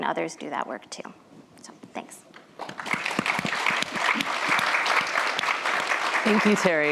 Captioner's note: applause